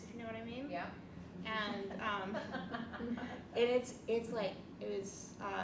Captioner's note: laughs